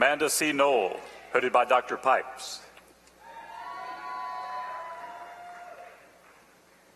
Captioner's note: applause